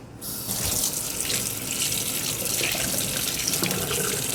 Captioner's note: tap water whooshing